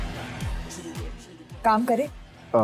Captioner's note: Mouthing